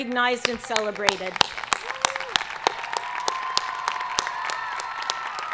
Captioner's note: audience applauding